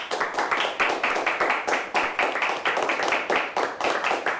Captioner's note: crowd applauds